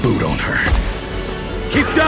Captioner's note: golpe de bota